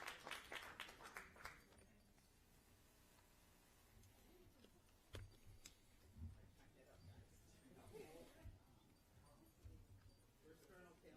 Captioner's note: applause